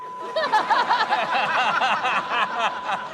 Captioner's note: laughter